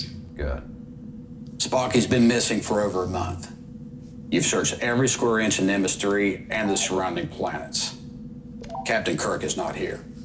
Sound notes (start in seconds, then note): none